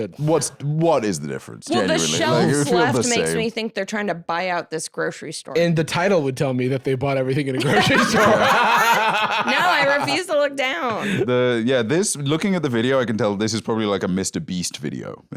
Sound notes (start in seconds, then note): 7.6 laughs